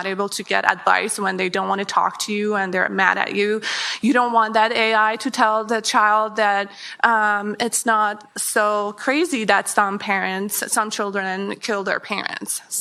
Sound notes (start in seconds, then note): none